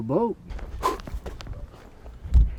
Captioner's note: exhales